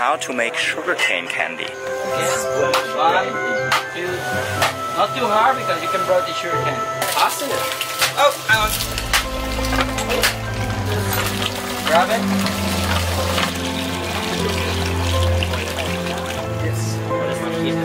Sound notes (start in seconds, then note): 6.0 murmurs; 13.9 liquid flows